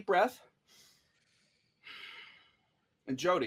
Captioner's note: both breathe deeply